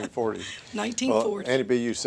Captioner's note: laughter